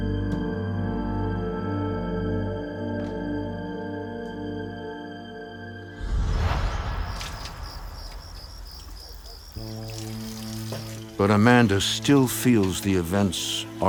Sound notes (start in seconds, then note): 6.0 insects chirping